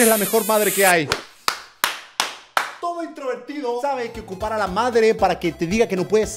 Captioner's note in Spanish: aplausos